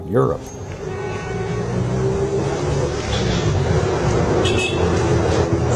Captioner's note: vehicles engine roaring